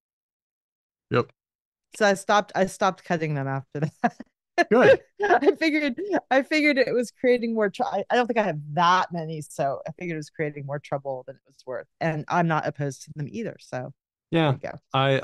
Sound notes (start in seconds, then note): 4.6 laughs